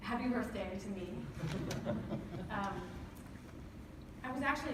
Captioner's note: laughter